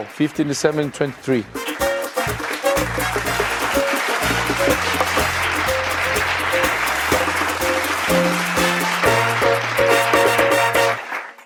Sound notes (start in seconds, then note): 0.7 lively festive music; 1.5 audience clapping